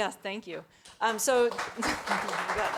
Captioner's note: people clapping